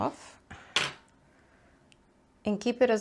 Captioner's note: scissors clatter